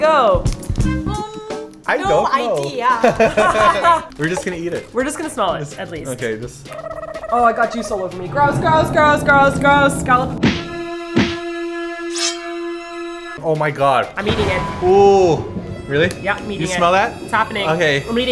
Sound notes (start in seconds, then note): 2.9 laughing